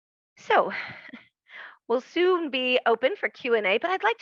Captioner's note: soft laugh